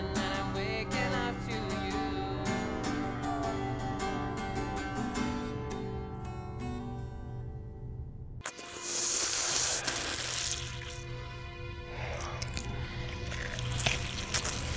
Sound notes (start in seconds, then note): 8.5 Max inhaling deeply; 12.0 flesh squishing